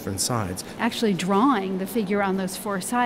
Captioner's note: voiceover